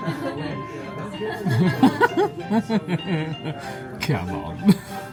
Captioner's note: laughs